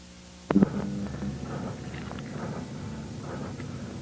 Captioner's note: distorted clunk; breathes heavily